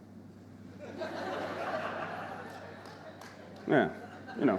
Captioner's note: audience laughing